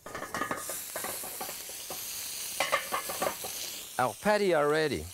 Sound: pan sizzling

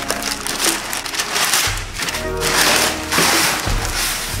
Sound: paper crinkling

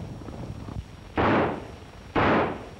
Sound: gunshots

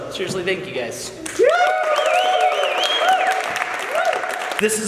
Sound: clapping

